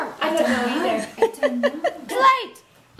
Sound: laughs

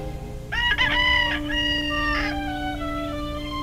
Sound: rooster crows

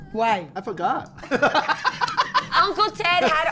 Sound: laughs loudly

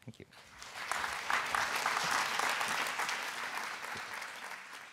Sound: applause

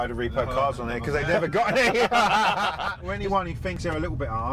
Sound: all laugh

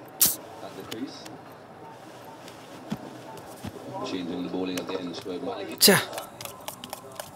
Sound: cricket commentary on TV

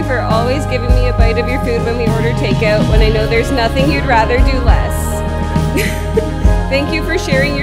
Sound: laughing

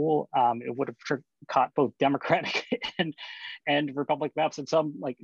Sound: laughter

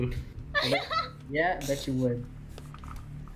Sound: laughing

